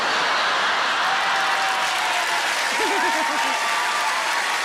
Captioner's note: audience applauds